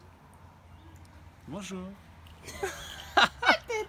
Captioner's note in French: avec une voix douce; rire